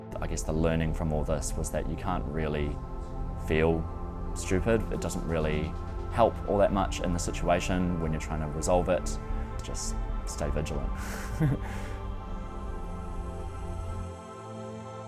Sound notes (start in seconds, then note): 11.0 chuckling; 12.2 ambient music